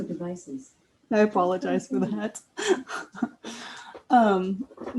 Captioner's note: laughs